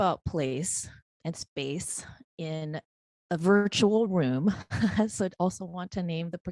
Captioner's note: chuckling